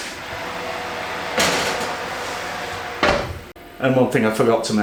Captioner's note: oven roar